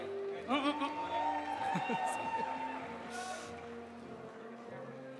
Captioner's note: audience cheering; audience applauding